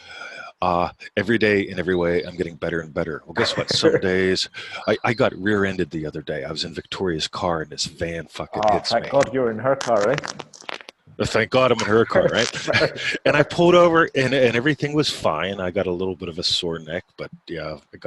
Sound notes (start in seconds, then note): 11.6 laughing